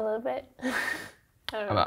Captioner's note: laughs